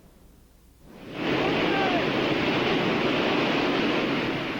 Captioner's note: wind whooshing